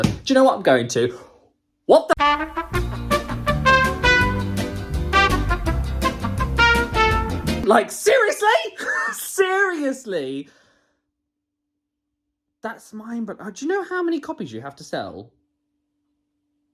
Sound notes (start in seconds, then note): 2.2 upbeat jazzy music; 8.8 laughs